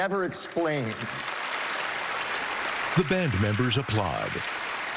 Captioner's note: applause